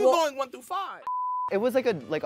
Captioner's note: beep